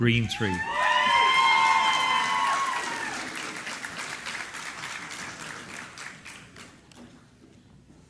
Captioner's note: applause